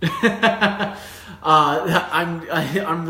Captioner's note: laughs